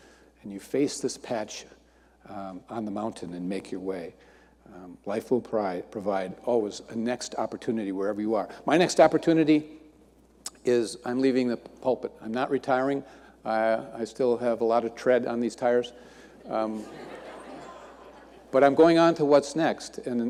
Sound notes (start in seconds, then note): 16.4 audience laughing